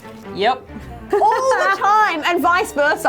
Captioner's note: laughing